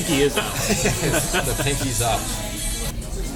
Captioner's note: laughter